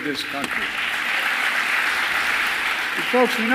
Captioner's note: applause